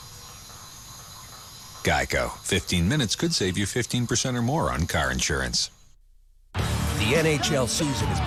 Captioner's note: ambient jungle noise